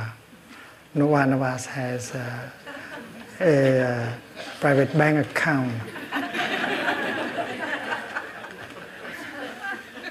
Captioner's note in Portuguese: risos